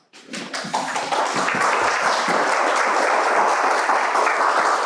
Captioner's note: audience applauds